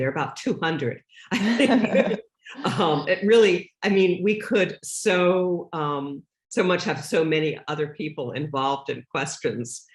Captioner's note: laughs